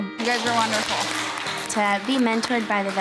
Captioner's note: team cheering